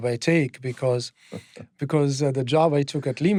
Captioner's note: chuckles